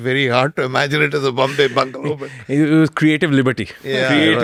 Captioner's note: laughs